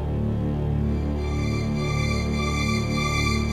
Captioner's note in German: Schrille hohe Töne dazu